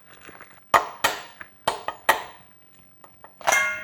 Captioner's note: crab cracking